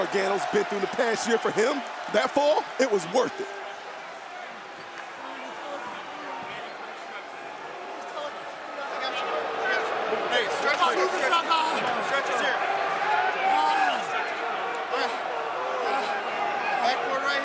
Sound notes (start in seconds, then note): 11.1 crowd chatter; 12.5 crowd cheering